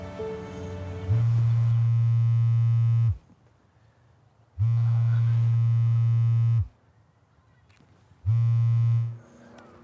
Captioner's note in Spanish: El teléfono de Jonah vibra tres veces